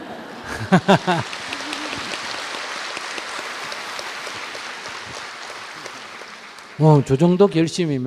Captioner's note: audience Laughter, Applause